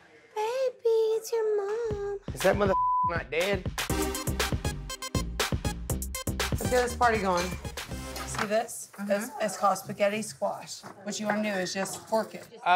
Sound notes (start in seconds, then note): 2.7 beep; 3.7 electronic music